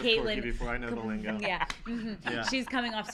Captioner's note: laughs